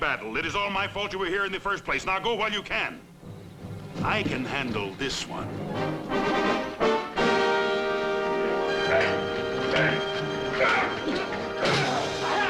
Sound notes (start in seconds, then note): 8.7 grunting